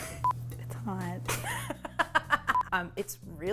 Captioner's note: laughs